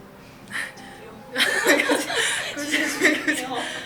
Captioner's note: laugh